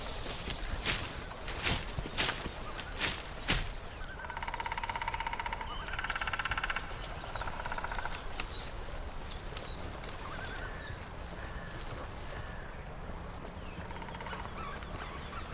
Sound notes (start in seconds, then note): 0.8 thud; 4.1 nature sound